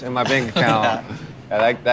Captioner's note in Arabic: ضحك